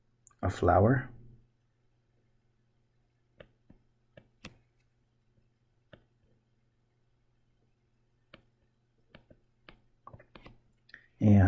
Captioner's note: writing Sounds